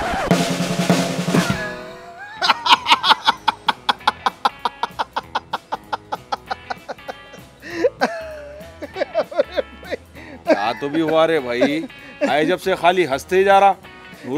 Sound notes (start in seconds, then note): 1.8 Laughter; 7.6 Laughter continues